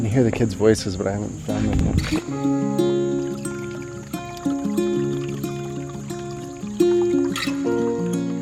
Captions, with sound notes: I can hear the kids' voices, but I haven't found them yet. (stream trickling)